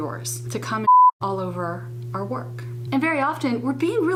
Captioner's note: beep